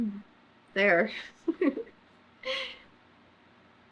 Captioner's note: laughs